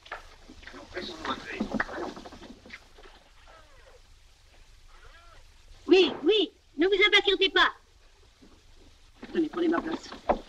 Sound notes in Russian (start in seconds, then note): 4.7 в трубке